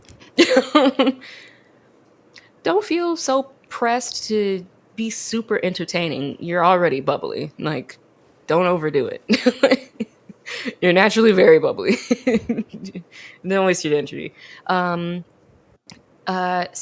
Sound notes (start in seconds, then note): 0.4 both laugh; 9.0 laughs; 12.0 laughs